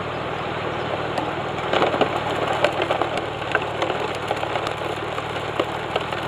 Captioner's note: water pump sound